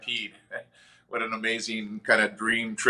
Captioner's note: chuckles